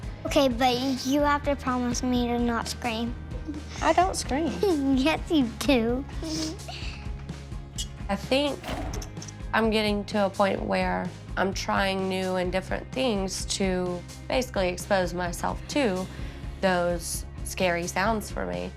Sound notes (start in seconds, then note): 6.5 giggles